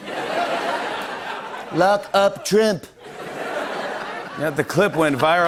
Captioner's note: laughter